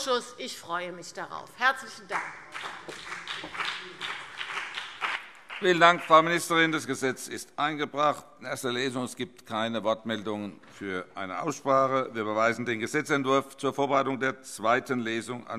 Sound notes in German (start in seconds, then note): 2.0 Beifall BÜNDNIS 90/DIE GRÜNEN und vereinzelt CDU